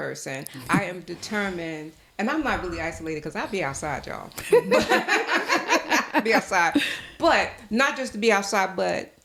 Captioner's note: laughter